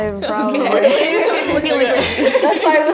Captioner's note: laughing